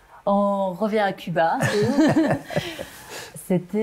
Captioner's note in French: rires